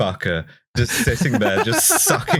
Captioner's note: laughs